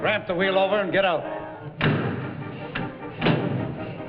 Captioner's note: door bangs